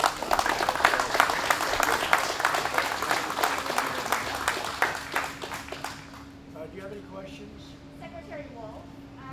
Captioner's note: applause